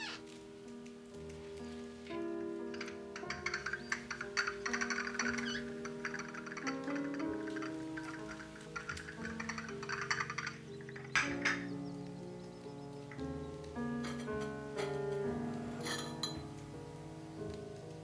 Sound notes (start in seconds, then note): 5.1 teacup rattling; 8.7 soft piano music